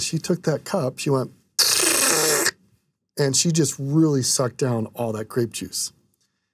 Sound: slurp sound

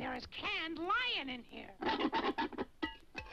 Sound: can scrapes

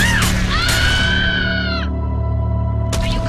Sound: death Scream

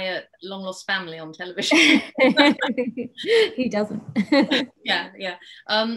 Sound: laughs

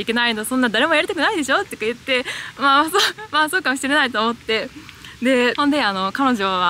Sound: laughs

